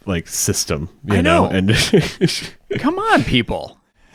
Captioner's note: laughs